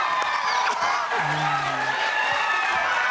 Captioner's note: audience applaud; sobs; audience applaud